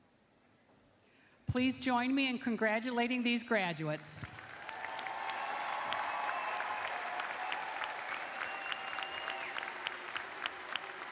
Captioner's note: cheers and applause